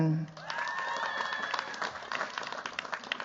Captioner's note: cheers, applause